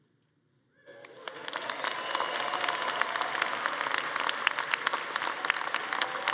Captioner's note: attendees cheering and applauding